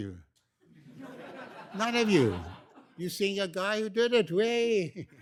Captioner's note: laughter